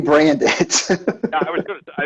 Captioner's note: laughing